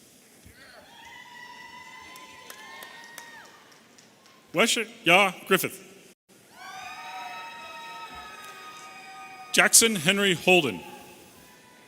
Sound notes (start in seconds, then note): 0.8 audience cheering; 6.4 audience cheering